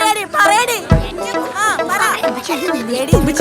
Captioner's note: continues quarelling